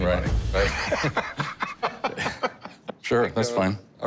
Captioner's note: laughs